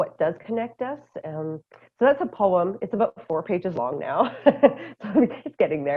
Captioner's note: laughter